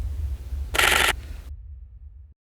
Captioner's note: shutter noises